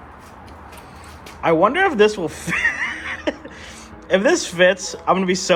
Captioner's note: laughs